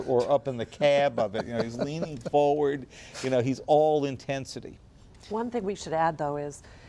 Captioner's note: laughter